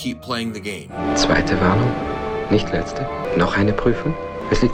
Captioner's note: in German